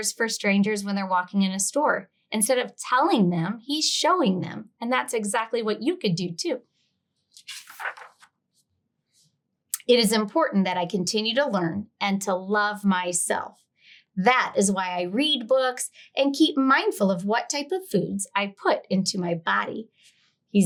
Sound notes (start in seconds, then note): 7.3 page rustling